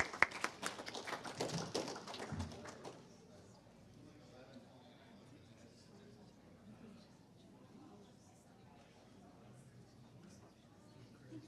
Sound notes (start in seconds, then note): 0.0 audience applauds; 4.5 audience chatters